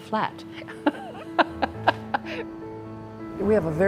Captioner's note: ^laughter^